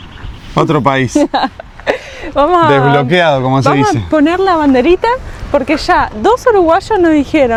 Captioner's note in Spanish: risas